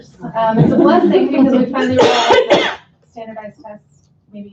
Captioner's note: laughter